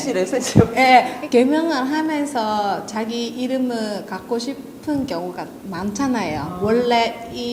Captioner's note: Korean